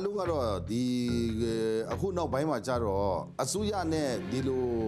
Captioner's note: speaking foreign language